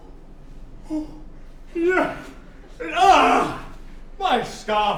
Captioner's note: sad/angry doctor noises